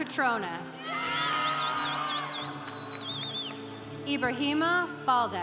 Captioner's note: congregation cheering